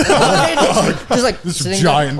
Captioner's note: all laughing